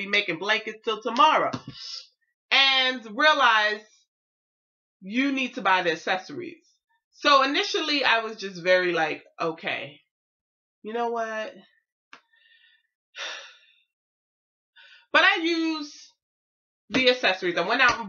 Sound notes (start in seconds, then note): 13.2 sigh